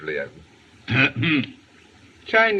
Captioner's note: ahem